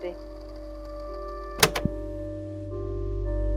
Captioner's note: click